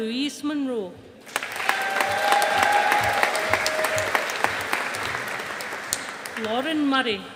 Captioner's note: audience applauding